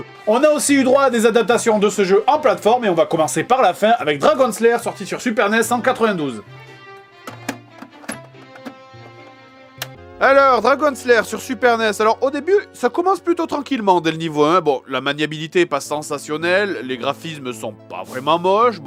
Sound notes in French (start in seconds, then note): 7.0 Bruit d'insertion de cassette